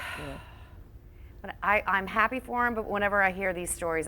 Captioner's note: sighs